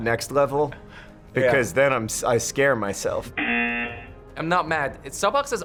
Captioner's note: buzzer